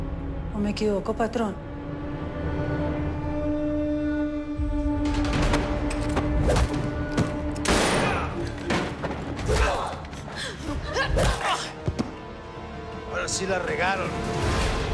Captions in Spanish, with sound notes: ¿O me equivoco, patrón? [Ruidos de la riña] [Disparo] [Gritos y quejidos] - Ahora sí la regaron.